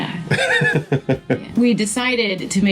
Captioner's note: laughing